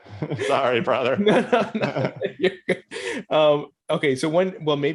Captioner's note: laughs